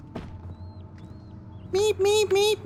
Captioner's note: rats squeaking